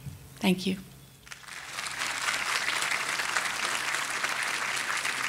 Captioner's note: audience applauding